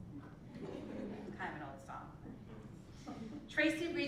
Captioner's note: laugh